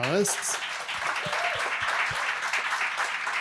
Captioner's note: applause